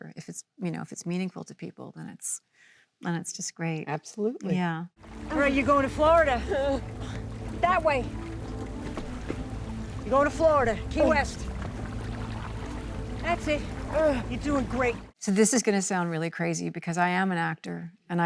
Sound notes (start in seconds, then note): 8.7 water trickles; 11.4 water trickles